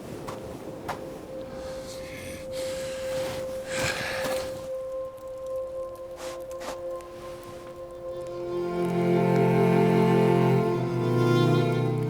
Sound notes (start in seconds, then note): 0.0 footsteps thudding; 0.0 wind whooshing; 3.4 James growls; 6.8 fire crackling; 6.8 suspenseful music